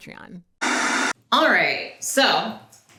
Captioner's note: static effect